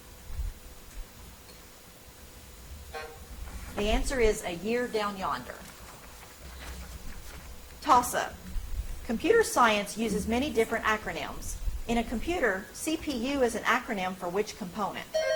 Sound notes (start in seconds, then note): 2.9 timer buzzes; 15.1 buzzer chimes